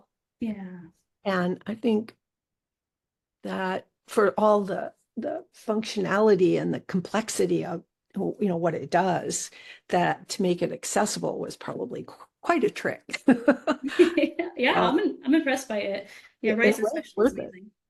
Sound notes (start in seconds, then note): 13.2 laughing